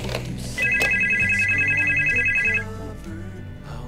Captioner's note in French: le téléphone sonne